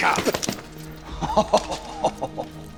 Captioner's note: chuckles